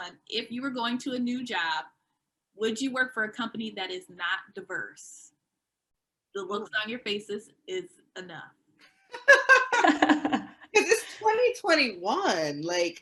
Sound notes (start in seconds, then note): 9.1 panel laughing